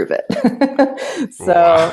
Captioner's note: laughs